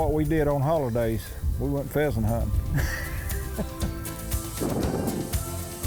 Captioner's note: laughs; upbeat music